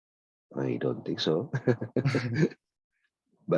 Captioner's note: laughs